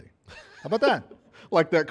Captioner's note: laughter